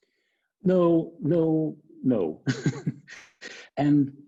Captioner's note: laughs